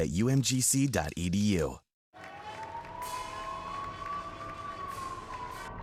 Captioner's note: distant sirens blaring